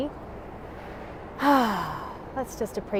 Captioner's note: exhales deeply